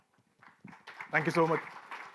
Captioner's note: light applause